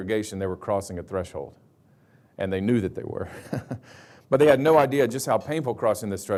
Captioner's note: chuckles